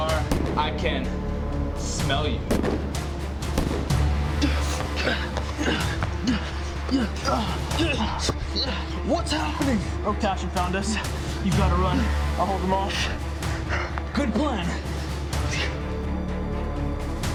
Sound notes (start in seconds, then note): 4.2 grunting